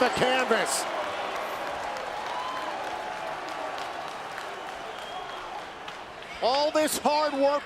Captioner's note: applause